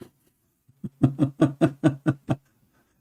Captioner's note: Ketawa